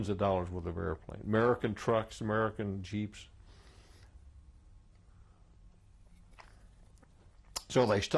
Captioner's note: drinks